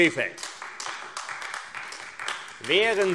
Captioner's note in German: Beifall AfD